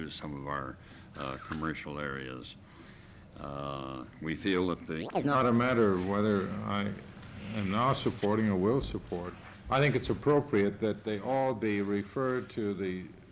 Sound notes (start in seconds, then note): 4.5 camera noise